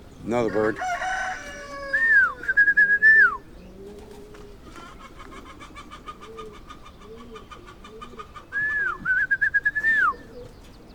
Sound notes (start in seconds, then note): 0.4 rooster crowing; 2.0 whistling; 2.2 chickens clucking; 8.5 whistling